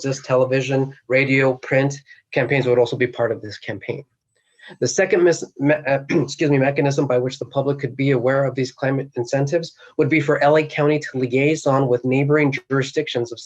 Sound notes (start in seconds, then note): 6.0 coughs